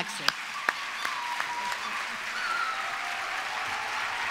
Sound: applause

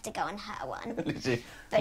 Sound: laughing

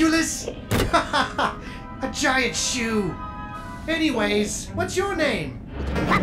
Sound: laughs

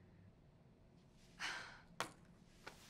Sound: sigh

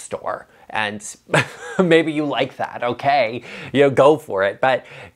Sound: chuckles

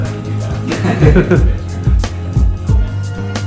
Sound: laughing; electronic music

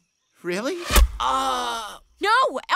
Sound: arrow thuds; Elfo moans

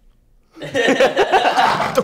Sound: laughs

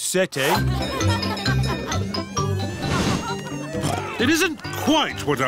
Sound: cheerful jingling; oinks

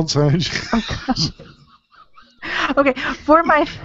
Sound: laughs

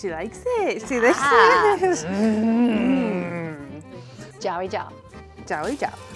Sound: speaking in mandarin

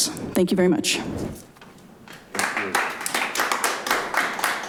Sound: audience applauding

